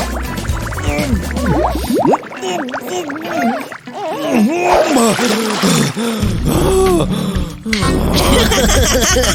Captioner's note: grunting; muffled underwater sounds; humming something unintelligible; heavy breathing